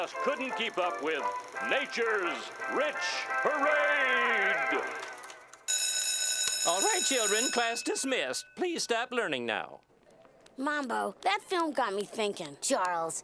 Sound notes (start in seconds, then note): 5.6 bell ringing